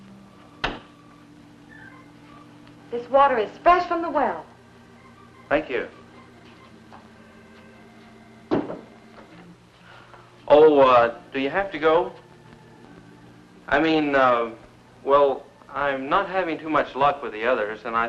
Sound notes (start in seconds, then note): 0.1 pleasant music; 7.1 pleasant music; 9.0 jug thudding